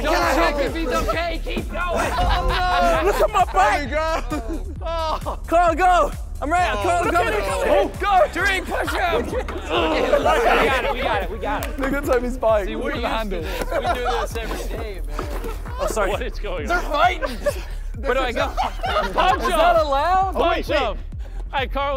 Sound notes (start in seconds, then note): 4.1 contestant chuckling; 10.3 contestant grunting and laughing; 18.9 contestants laughing